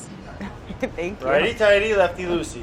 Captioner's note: laughing